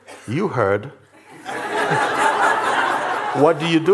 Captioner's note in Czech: smích